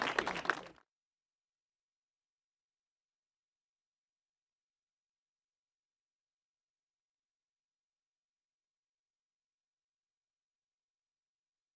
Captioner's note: applause